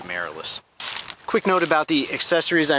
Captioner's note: dry leaves crashing